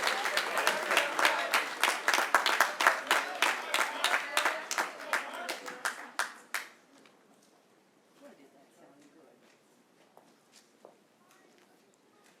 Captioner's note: cheering; applause